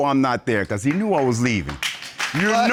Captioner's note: audience applauds